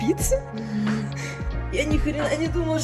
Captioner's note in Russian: смех